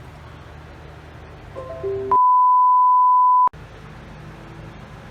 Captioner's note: computer sound